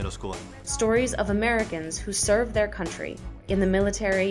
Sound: voiceover

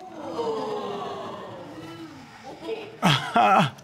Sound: audience exclaiming

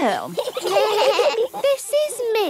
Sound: children giggling

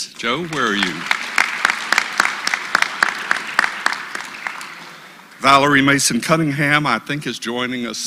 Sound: applause

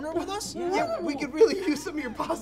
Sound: mocking

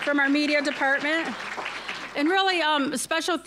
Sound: applause

